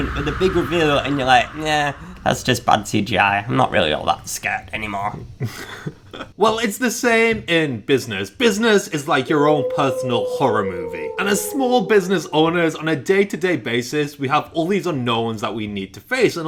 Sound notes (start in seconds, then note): 5.3 laughs